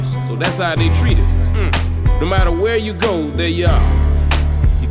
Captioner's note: mmph